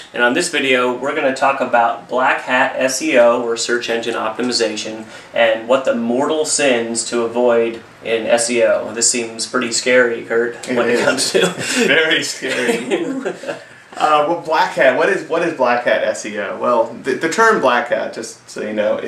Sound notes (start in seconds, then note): 10.6 laughs